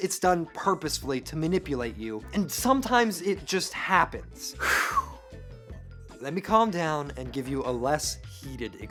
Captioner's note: sighs